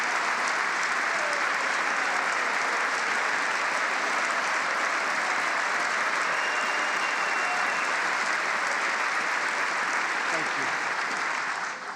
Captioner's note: applause